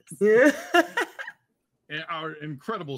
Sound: laughs

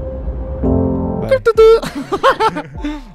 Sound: sudden cutoff noise

